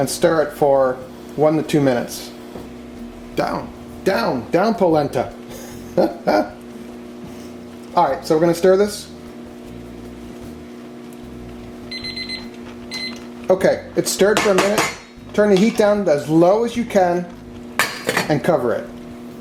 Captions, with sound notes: and stir it for one to two minutes. Down, down, down, polenta. (laughing) All right, so we're going to stir this. (timer beeps) Okay, it's stirred for a minute. Turn the heat down as low as you can and cover it.